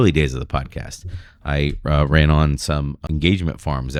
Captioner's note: uh